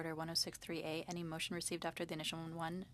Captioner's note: speaking French